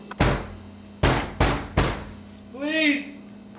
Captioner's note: banging on door